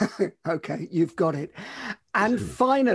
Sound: laughs

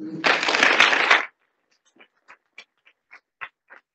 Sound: audience applauding

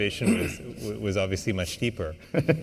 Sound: laughter

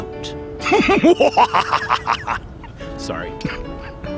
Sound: maniacal laughter

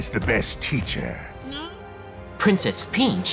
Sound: Kamek moans

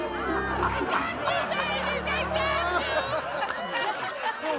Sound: laughing

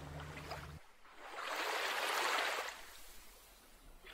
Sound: water splashing

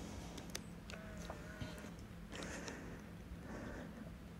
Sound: camera turns on

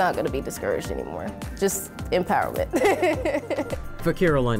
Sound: laughs

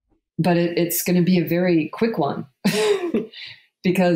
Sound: laughs

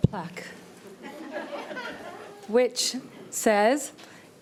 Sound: audience member laughing

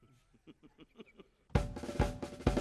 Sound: person laughing; upbeat drums music

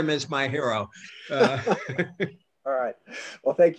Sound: laughter

